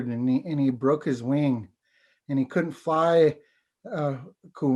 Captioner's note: foreign language